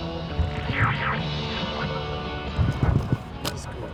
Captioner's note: energetic music continues; device squealing